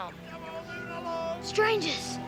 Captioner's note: yelling